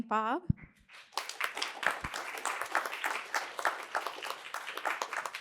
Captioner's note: applause